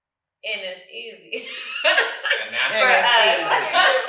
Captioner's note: guffaws; family speaking together